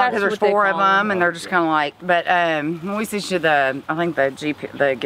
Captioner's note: stammers